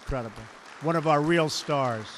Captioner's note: applause